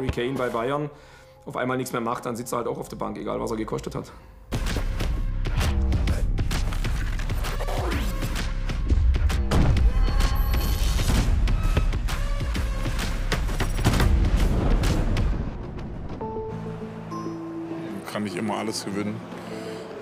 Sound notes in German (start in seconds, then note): 4.5 Lässige Musik; 6.6 Rascheln; 9.4 Dumpfes Krachen; 13.3 Dumpfe Geräusche; 16.2 Musik verklingt; 16.5 Nachdenkliche Musik